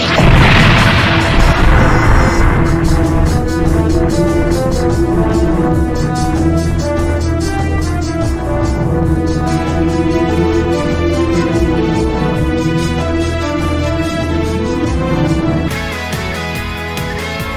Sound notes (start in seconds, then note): 0.2 boom